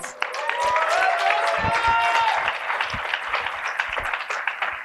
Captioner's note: cheering and applause